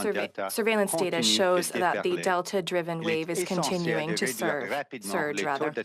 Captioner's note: speaking French